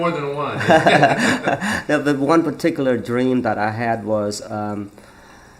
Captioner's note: both laugh